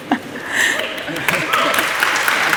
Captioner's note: applause